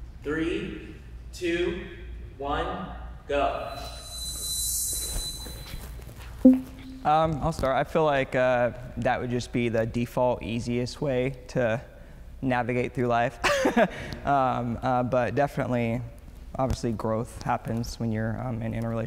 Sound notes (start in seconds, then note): 3.6 chiming music; 13.3 laughs